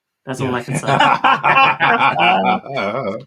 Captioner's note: laughter